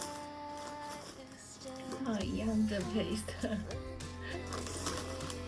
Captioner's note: laughs